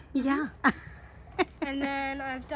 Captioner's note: laughs